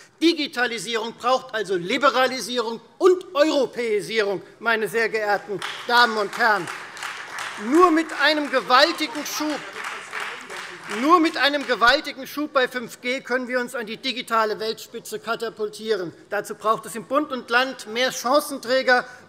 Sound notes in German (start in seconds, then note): 5.4 Beifall Freie Demokraten